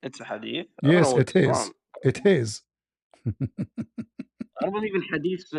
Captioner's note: ketawa